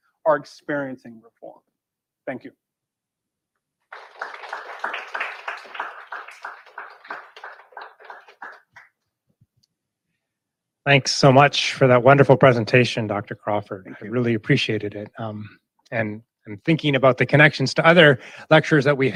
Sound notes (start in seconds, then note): 3.8 audience clapping